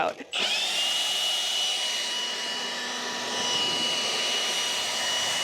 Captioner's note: blower whooshes